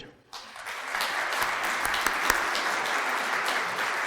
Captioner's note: audience applauding